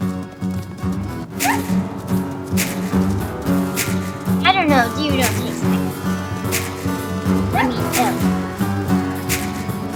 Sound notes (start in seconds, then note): 1.4 elk Screaming Sounds